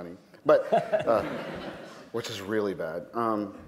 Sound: laughter

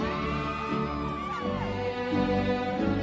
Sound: cheering

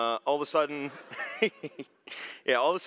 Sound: laughter

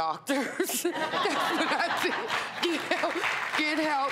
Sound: applauding

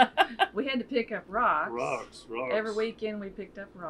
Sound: laughs

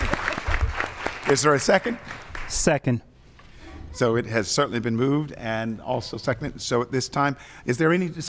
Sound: applause

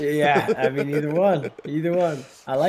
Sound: laugh

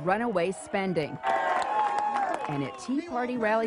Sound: crowd clapping and cheering

